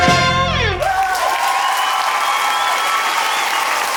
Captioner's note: audience erupts